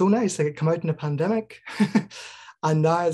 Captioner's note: chuckles